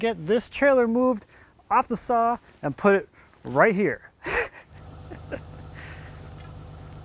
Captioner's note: laughs